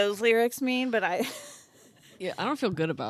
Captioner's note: laughing